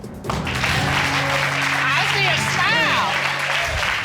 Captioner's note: audience clapping